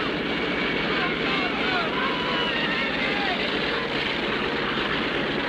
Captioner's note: crowd shouting